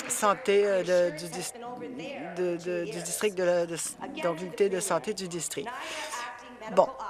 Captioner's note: applause